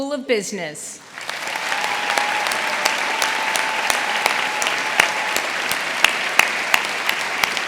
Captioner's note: audience applauding; audience cheering